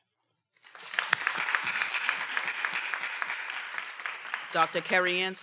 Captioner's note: everyone applauding